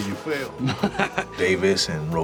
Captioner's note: laughs